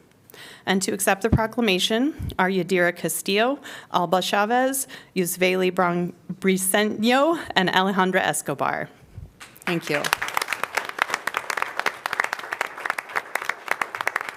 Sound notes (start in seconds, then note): 9.4 applause